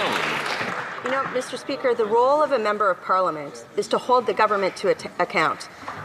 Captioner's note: some Applause